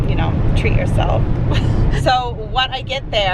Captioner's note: chuckles